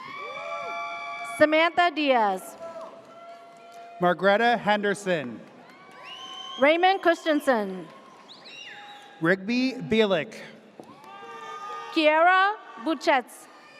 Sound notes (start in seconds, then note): 0.0 audience cheers; 5.6 audience cheers; 10.9 audience cheers